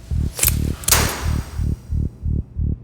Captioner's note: door closes